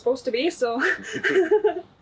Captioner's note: laughs